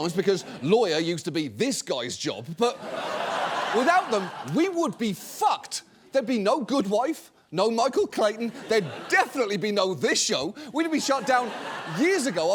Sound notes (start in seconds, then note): 2.6 audience laughs